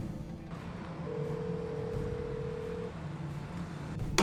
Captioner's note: phone ringing